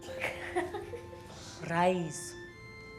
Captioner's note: Manny laughs